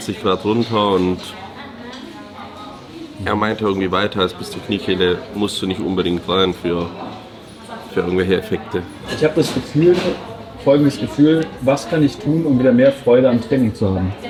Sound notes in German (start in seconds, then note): none